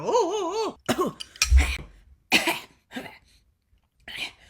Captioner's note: coughing